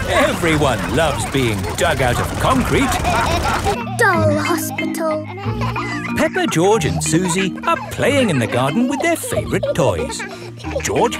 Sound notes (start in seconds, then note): 0.0 all laughing; 5.5 kids laughing